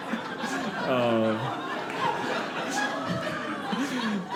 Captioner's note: audience laughing